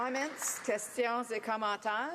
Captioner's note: applause